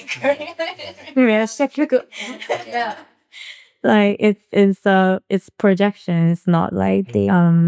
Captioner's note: laughing